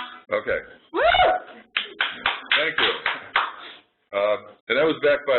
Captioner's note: applause